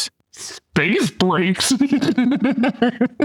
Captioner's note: laughing